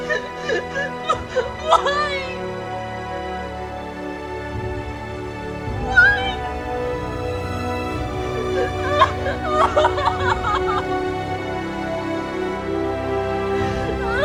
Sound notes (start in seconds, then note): 8.5 Tara cries